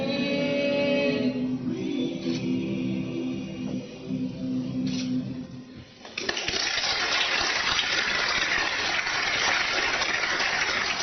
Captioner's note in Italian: Applauso